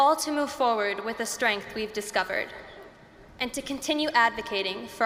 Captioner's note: none